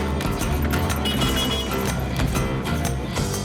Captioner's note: tractor beeps